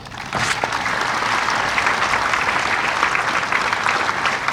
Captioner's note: audience applauding